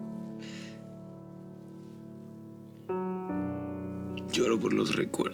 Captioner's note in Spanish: Sollozos